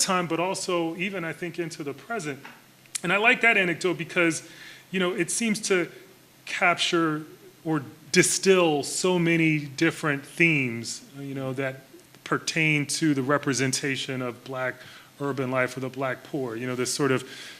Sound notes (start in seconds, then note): none